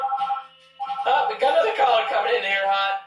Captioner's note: phone ringing